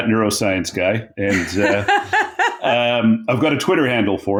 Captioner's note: laughing